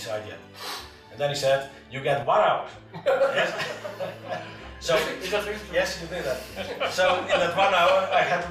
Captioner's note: laughter